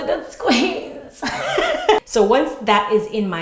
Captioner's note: laughing